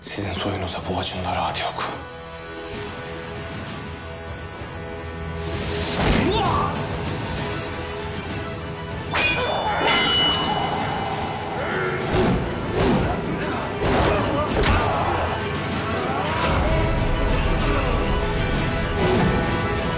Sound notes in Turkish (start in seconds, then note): 5.5 Dövüş Sesleri